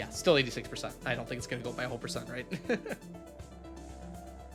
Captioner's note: laughs